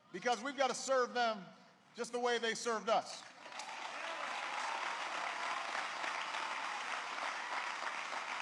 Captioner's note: applause